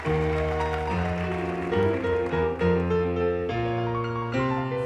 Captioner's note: audience applauding